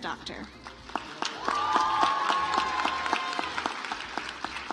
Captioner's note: audience applauds